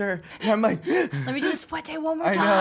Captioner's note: breathing heavily